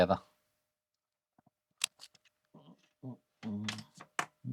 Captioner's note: keyboard Clicking